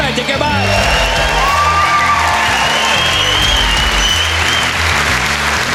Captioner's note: cheering Loudly